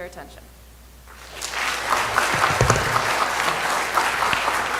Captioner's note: audience applause